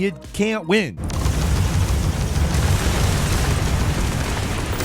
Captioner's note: guns blasting